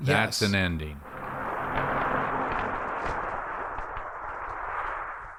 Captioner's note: wind rustling